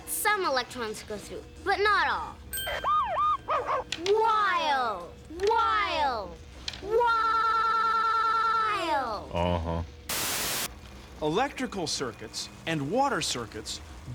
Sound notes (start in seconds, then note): 2.6 <i> dog barking</i>